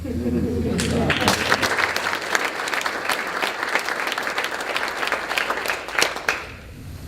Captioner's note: applause